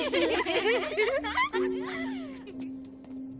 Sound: giggling

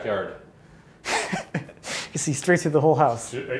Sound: chuckles

